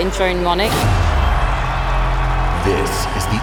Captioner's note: cheering